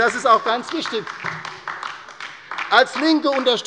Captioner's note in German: Beifall bei der LINKEN